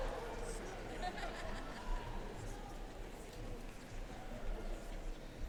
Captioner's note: audience cheering and applauding; participants laughing